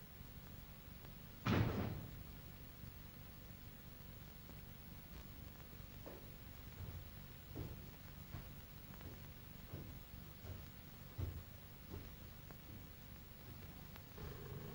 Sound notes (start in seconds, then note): 1.5 bang from downstairs; 7.4 footsteps up stairs